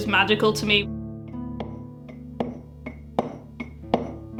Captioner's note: chisel cutting stone